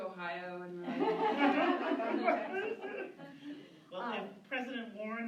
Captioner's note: laughter